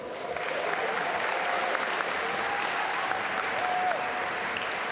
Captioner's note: audience applaud